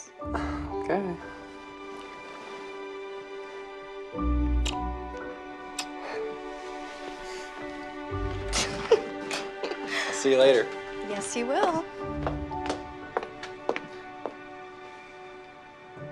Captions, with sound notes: - Okay. (both chuckling) I'll see you later. - Yes, you will.